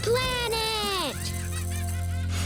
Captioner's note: children shouting